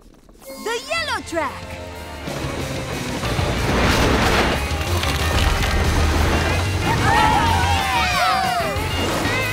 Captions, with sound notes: The yellow track! [cheering]